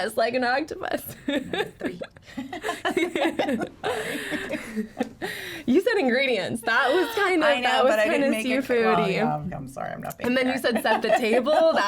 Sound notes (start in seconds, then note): 1.4 laughs; 3.1 laugh